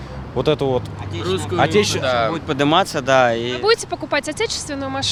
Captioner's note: Russian